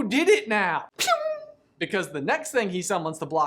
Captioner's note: spell ricocheting